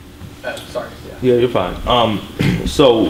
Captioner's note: voiceover